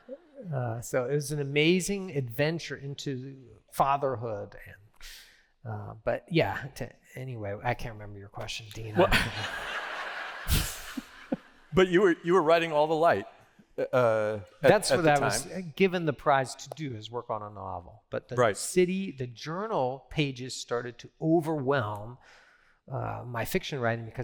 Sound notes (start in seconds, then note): 8.9 laughter